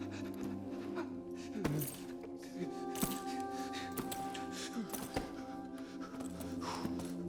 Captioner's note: Lance breathing heavily; tense music